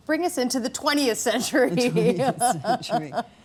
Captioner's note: laughing